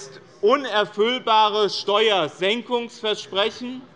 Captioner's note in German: none